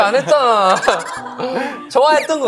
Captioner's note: hahaha